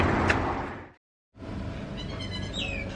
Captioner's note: birds chirping